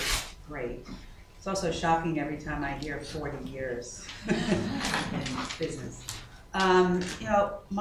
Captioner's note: laughter